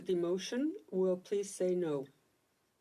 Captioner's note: speaking French